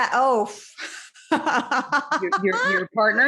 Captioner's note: laughing